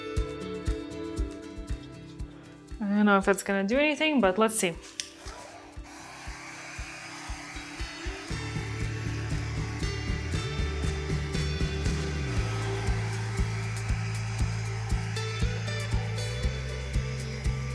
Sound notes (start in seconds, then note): 0.0 upbeat acoustic music; 6.7 blow dryer hums; 13.2 uplifting music